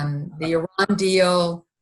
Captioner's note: chuckling